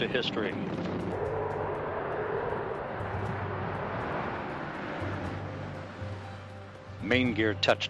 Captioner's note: nat sound of STS-135 Landing